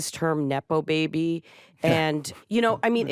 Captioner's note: chuckles